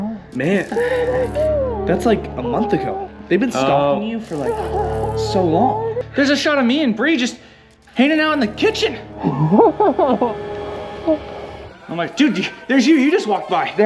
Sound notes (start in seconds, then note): 9.1 clown laughing